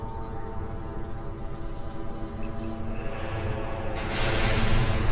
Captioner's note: chains rattling